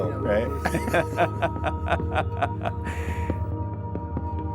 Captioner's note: laughing